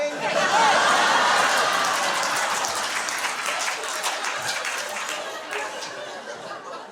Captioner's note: laughter and applause